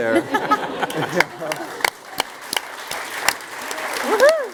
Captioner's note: applause